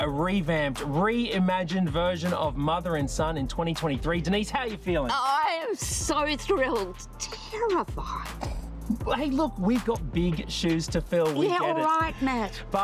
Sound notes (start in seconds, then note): 6.9 quietly